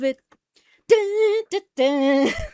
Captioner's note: hums "YMCA"; laughs